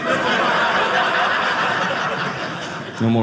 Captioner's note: audience laughing